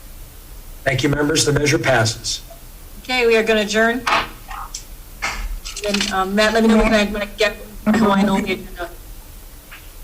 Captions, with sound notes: - Thank you members, the measure passes. Okay, we are going to adjourn. (gavel bangs) (speakers mic cuts in and out)